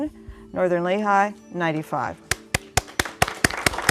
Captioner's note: applause